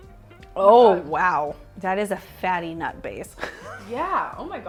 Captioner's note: laughs